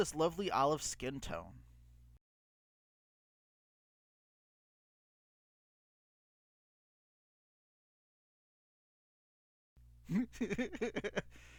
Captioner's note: laughing